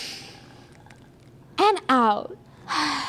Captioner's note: they breathe